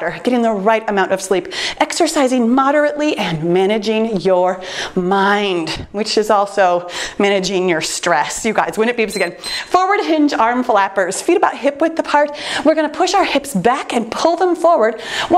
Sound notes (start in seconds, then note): 9.0 timer beeps